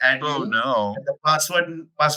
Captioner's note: both laughing